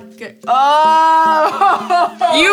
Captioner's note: laughs